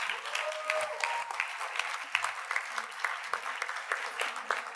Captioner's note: audience applauds